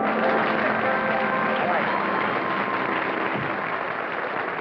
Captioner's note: applause